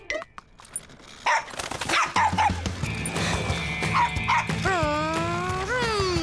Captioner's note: champion barks